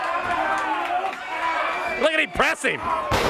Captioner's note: crowd chatter